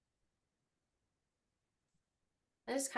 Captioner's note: silence